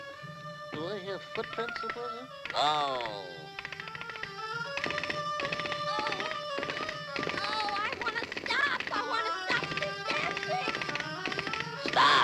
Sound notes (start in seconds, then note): 0.2 mysterious music; 3.8 feet tapping; 3.8 stones clattering; 8.7 mysterious music